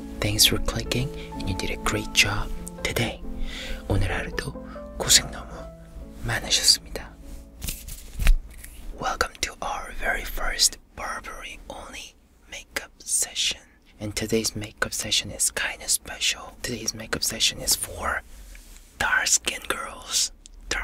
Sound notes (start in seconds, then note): 3.8 in Korean